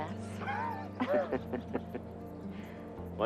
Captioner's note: both laughing